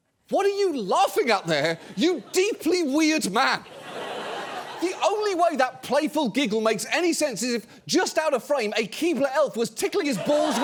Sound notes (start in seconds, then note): 3.4 audience laughs